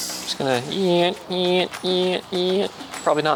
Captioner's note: sawing Noises